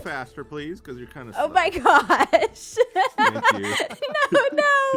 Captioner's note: laughs